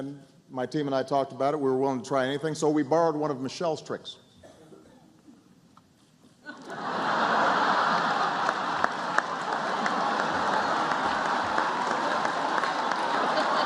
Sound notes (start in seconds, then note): 4.7 laughter and applause